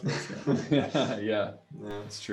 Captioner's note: laughing